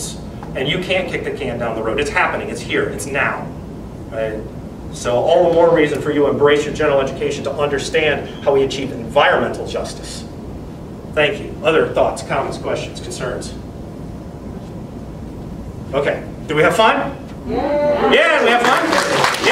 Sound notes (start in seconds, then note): 18.2 audience clapping